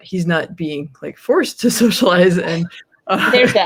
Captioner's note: laughs